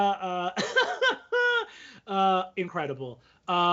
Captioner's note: laughs